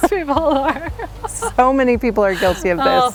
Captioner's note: laughs loudly